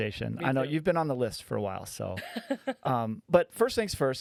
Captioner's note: laughing